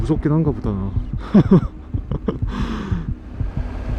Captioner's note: crying